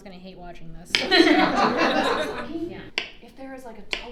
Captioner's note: audience laughing